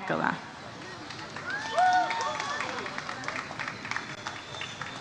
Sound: audience applauds

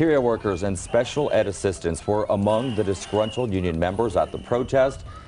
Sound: cheering

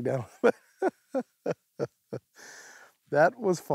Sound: laughs

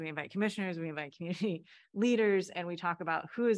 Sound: laughter

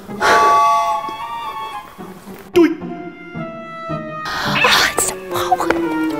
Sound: she gives up with a huge sigh

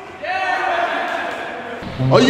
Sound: cheers

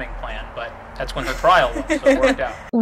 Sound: laughs

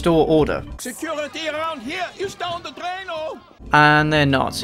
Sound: German accent

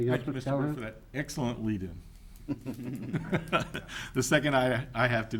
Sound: laughing

